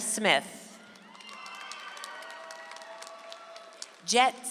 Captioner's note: audience applauds